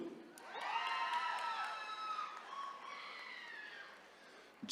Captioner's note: attendees cheering